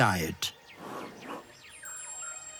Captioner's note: elephant exhales